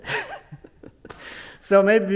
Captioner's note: laughing